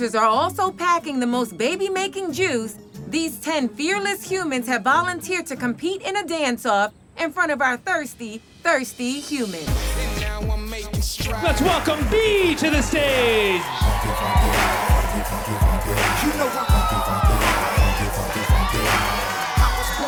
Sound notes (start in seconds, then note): 9.9 upbeat music; 13.6 crowd cheering; 14.6 funky upbeat music